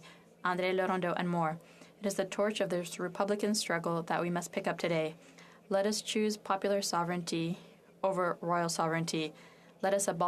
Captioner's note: speaking French